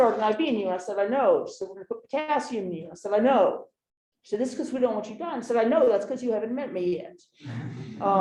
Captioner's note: laughter